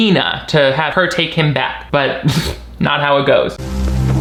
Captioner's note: scoffs; suspenseful instrumental music